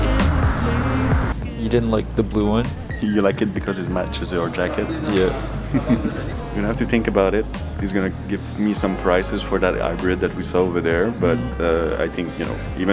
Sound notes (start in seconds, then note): 0.2 upbeat music; 5.6 chuckles